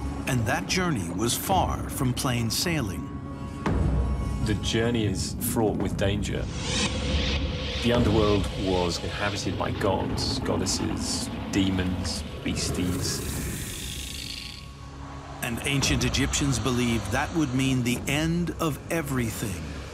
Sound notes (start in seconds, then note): 3.3 gentle suspenseful music; 12.6 snake hisses; 13.3 gentle frantic music; 19.7 gentle suspenseful music